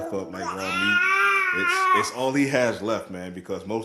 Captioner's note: baby Crying